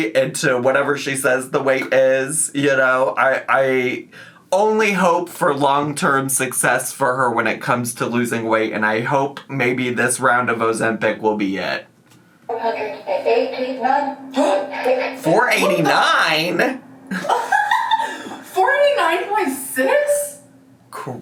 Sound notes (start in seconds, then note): 12.4 machine Voice; 14.9 gasps; 17.1 laughing